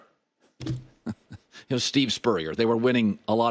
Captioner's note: laughs